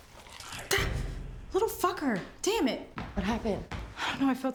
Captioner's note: gasps